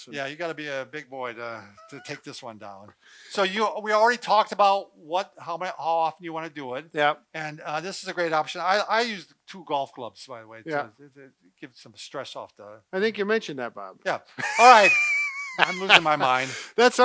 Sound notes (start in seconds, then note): 14.4 laughs